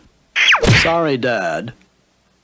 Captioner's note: smack!